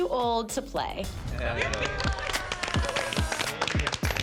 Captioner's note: cheering